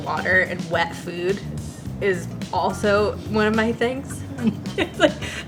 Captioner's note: laughs